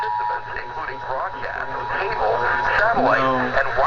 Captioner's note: radio chatter